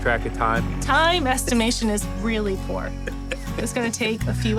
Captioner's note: laughter